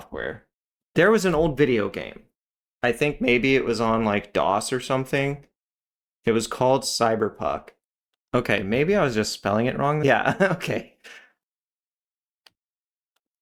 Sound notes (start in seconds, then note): 10.4 laugh